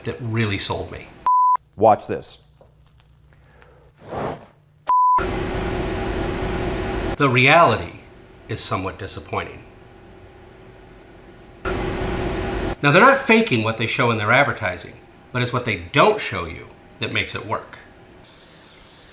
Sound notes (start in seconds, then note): 3.3 exhales